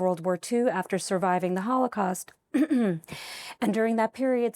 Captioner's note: clears throat